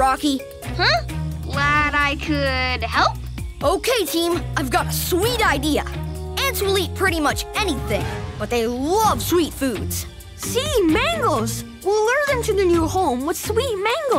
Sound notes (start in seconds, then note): none